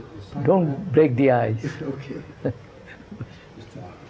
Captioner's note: laughs